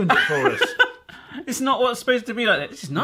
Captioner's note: laughing